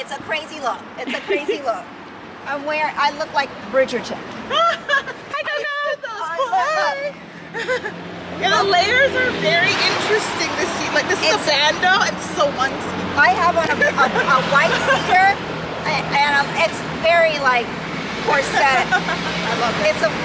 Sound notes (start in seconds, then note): 12.9 murmurs